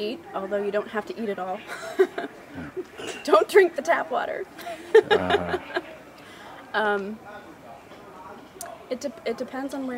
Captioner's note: laughing